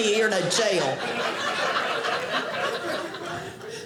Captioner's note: audience laughing